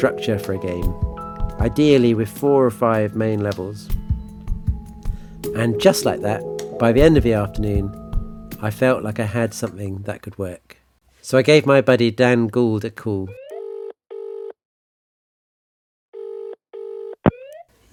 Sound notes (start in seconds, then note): 13.4 phone rininging